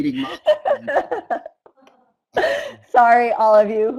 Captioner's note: laughter